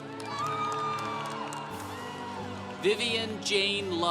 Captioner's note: congregation cheering